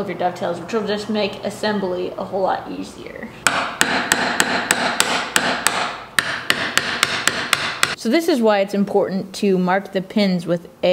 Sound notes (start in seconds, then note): 3.4 banging